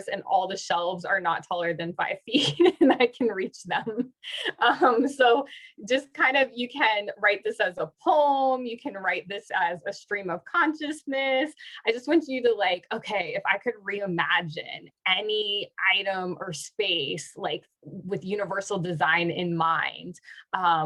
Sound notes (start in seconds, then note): 2.4 laughter